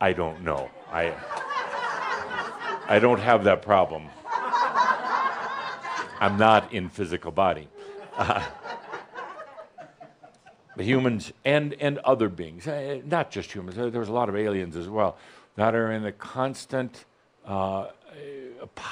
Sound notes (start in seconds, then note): 0.0 laughter; 0.7 more laughter; 7.7 more chuckles